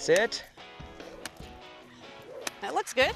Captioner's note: stick cracking